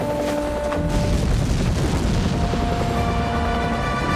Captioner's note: booming